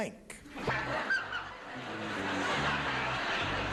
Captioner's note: audience laughing